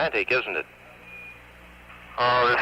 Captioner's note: radio transmission